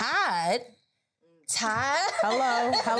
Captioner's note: laughs